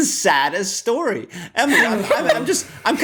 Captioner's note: laughter